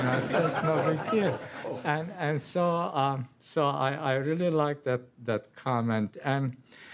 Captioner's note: laughter